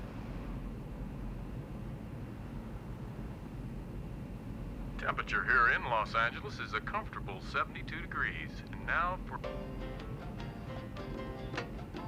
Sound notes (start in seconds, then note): 4.8 man over stereo